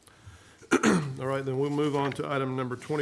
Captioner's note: clears throat